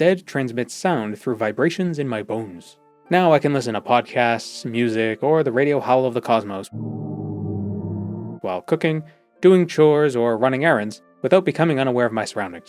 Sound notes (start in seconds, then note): 6.7 cosmic radio howl